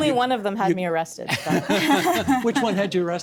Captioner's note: laughing